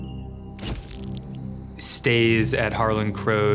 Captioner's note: shutter clicks